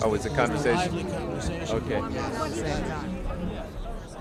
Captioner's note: indistinct chatter